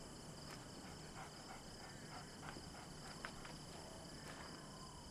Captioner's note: coyote panting